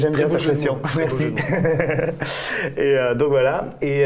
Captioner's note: laughters